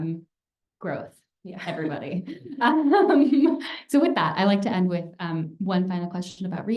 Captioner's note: laughter